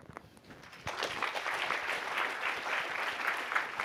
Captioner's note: applause